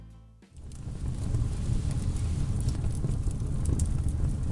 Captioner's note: fire sound effect